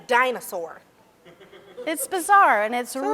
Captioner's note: person laughs